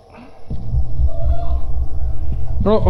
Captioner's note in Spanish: grito distante